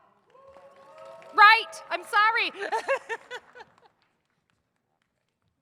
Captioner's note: laughing